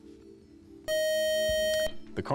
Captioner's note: time up buzzer